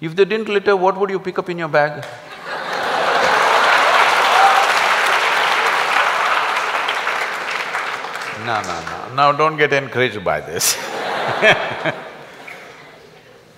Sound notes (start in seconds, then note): 2.2 laughter\Applause; 10.6 laugh